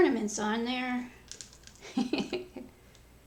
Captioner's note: laughs